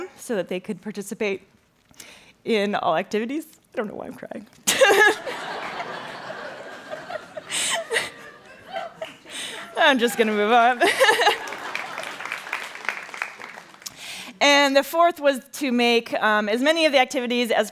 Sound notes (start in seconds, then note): 7.4 laughing; 11.1 applauding